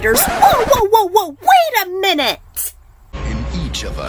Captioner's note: record scratch